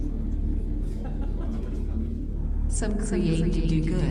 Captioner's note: person laughs